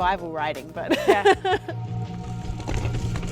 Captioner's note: laughing